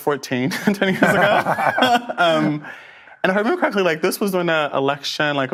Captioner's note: laughs